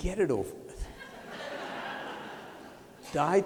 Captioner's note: laughter